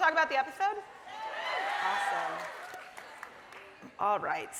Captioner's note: audience cheering